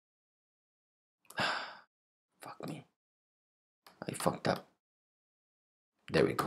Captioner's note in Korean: 깊은한숨